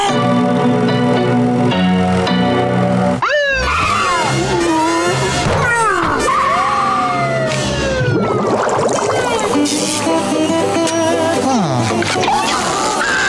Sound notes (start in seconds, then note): 3.2 sirens blaring; 12.7 screaming